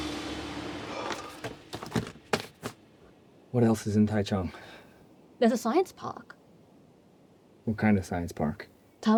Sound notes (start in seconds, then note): 0.8 relieved sigh